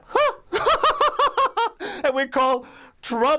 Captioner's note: laughs